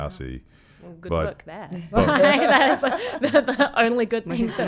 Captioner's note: laughing